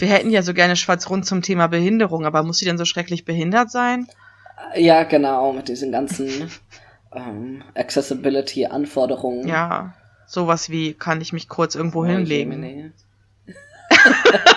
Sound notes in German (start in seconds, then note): 4.8 ironie; 13.5 beide lachen